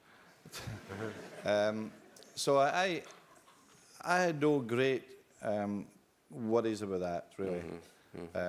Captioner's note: laugh